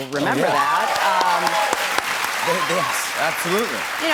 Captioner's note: cheers and applause